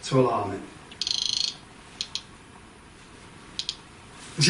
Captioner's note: Rem chirps